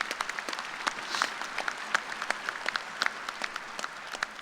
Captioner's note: applause